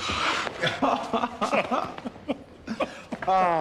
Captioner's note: keduanya tertawa